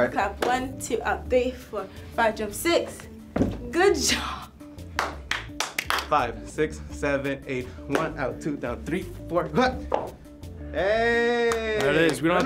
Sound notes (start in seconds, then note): 4.9 claps